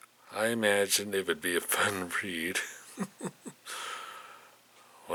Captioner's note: chuckles